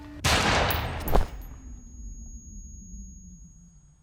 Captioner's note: gunshot bangs